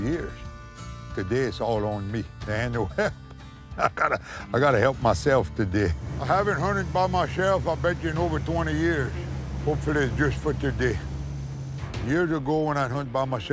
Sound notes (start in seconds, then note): 3.7 laughs